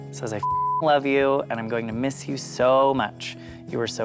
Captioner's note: beep